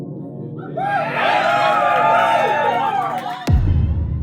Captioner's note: crowd cheering